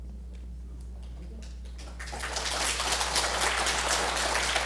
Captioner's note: applause